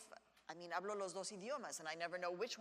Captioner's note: speaks in Spanish